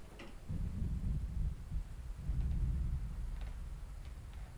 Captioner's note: thunder rolling